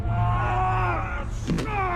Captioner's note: yelling